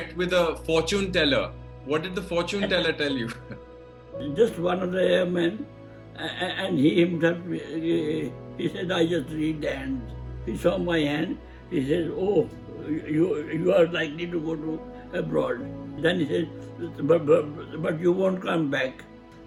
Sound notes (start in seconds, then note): 2.5 laughs